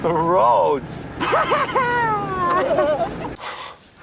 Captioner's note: laughing